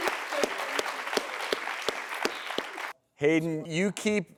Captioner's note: applause